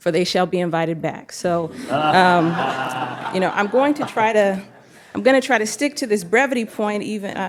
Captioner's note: laughter